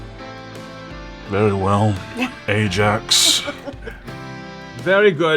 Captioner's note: laughs